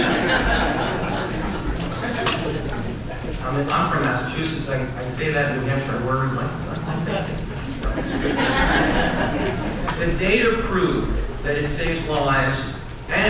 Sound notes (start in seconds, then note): 6.4 audience laughs